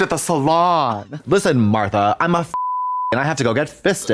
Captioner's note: beep